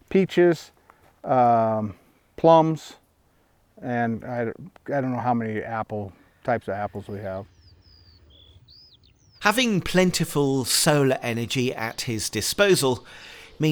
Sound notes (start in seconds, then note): 7.8 birds chirping and chittering